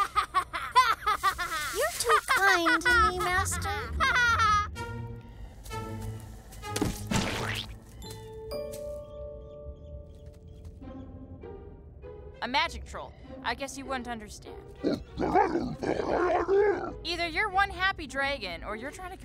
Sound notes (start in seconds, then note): 14.8 growls happily